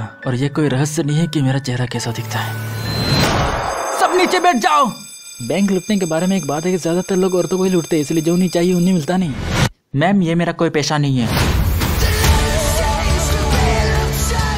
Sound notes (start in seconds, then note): 2.4 Alarm sounds; 3.1 Gun shot